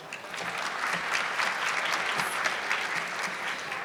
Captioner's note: audience clapping